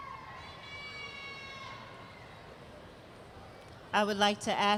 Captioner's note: cheering